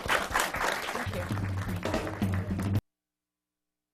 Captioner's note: applause